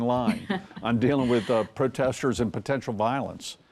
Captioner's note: chuckles